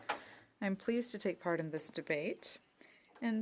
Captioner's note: speaking French